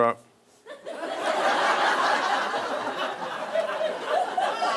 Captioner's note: audience laughing